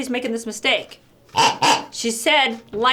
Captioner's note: toy pig oinks